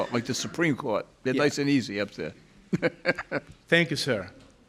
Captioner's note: chuckles